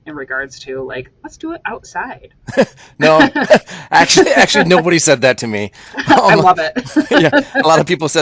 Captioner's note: laughter